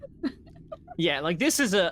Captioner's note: laughing